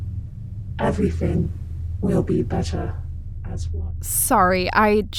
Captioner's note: transmisson cuts